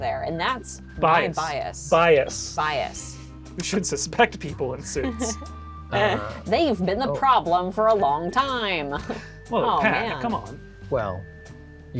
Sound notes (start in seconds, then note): 5.0 laughs